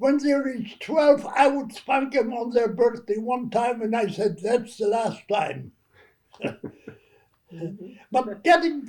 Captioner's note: laughter